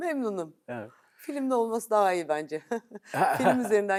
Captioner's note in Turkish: kahkaha